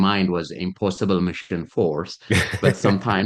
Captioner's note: laughing